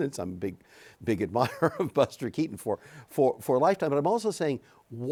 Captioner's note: chuckles